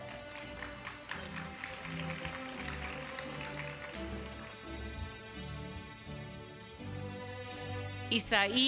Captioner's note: applause